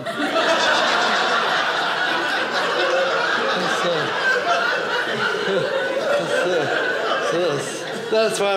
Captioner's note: audience laughing